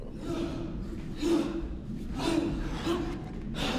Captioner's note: performers breathe audibly as they move